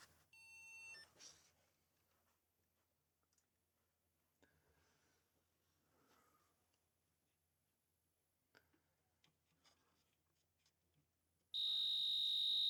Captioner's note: silence